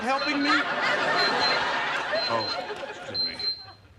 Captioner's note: pager beeping